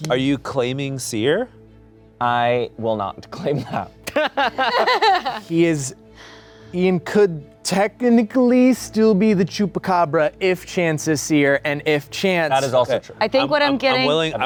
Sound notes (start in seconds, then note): 4.0 laughing